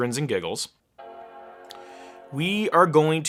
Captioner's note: startup sound